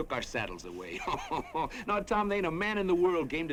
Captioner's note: laughs